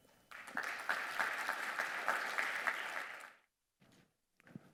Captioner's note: audience applauding